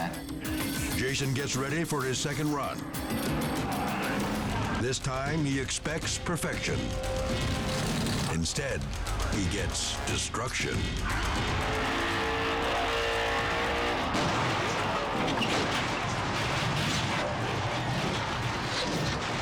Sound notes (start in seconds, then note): 10.8 engine rumbling; 13.9 car crashing; 13.9 dramatic music